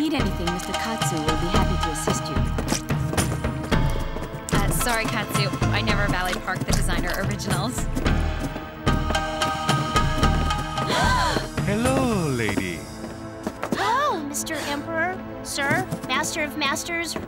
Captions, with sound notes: If you need anything, Mr. Katsu will be happy to assist you. Uh, sorry, Katsu, I never valet park the designer originals. [gasping] Hello, ladies. Hello, Mr. Emperor, sir, master of masters,